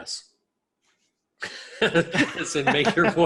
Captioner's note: people laughing